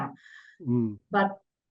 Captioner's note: laughs